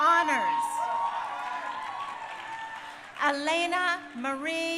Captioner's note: crowd cheering